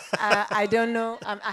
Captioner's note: laugh